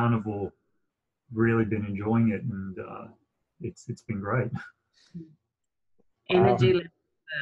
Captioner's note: chuckles